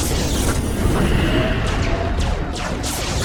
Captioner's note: spacecraft whooshing; cannons blasting; explosions booming